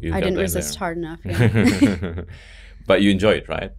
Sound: both laugh

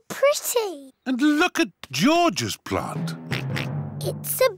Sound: oinks

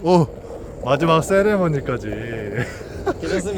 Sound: laughs

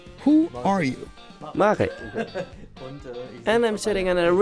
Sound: laughs

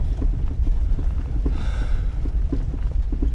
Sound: sigh

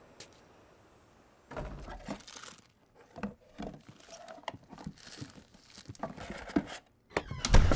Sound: door thuds; items clattering; door creaking; door thuds

